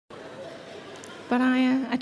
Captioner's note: audience murmur